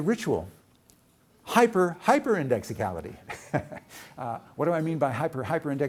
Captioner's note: chuckles